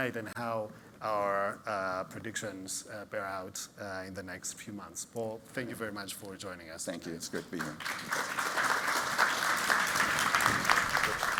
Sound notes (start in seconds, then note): 7.3 applause